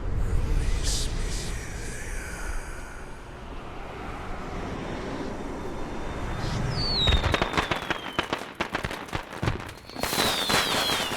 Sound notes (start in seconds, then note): 6.7 fireworks in background